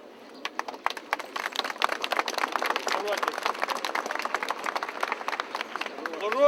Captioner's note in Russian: аплодисменты